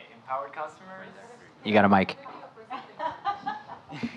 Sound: laughing

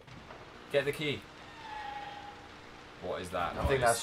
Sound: disturbing screech

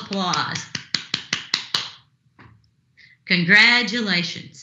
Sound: clapping

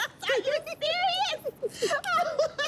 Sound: both laughing

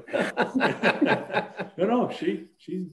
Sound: laughing

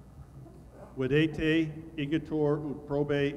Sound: speaking latin

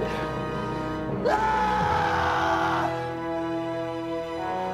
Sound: cry of anguish

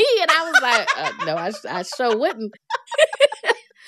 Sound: laughter

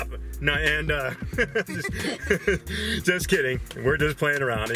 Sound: laughs

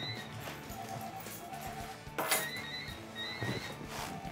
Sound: phones ring

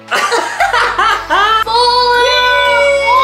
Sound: laughs

